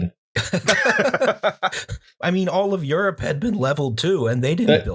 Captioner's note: laughter